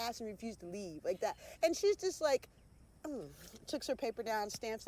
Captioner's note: scoffing